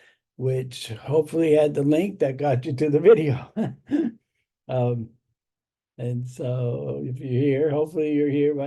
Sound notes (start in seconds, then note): 3.4 laughs